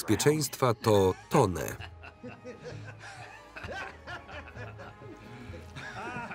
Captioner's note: maniacal laughter